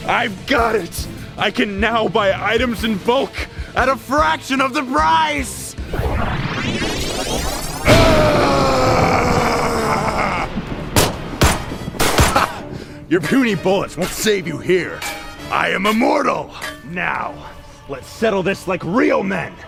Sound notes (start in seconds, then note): 10.6 gunshots